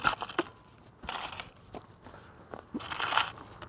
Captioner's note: scraping dirt